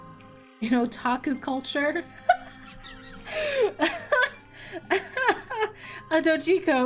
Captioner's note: laughs